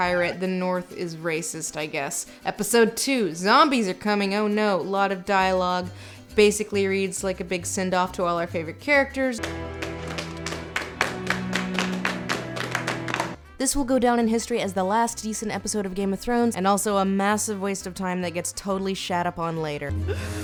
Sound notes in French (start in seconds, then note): 9.4 Applaudissements